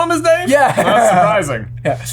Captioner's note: laughs